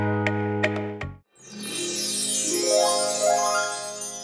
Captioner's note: happy chimes sound